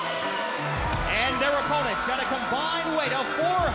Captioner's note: crowd cheering